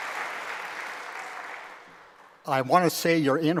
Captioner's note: applause